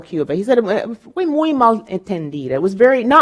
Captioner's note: speaking in foreign language